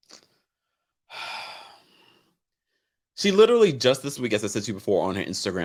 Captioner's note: sighs